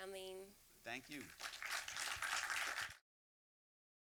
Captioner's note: applause